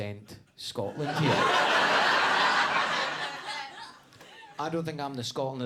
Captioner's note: audience laughing